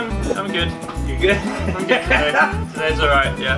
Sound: laughs

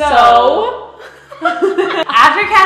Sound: laughs

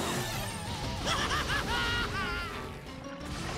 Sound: laughing

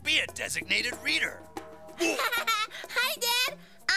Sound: laughing

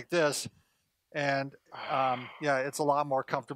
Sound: exhales

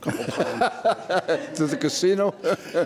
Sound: judge laughs

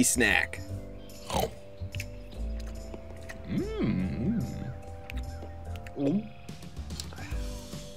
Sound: eating sounds

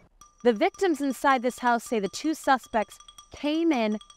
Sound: none

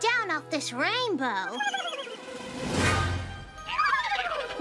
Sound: whinnying

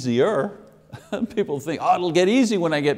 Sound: chuckling

